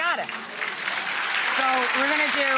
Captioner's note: applause